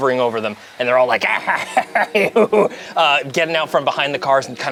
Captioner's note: cackles